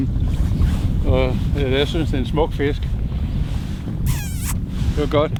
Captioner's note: kissing sounds